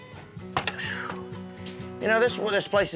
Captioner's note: sighs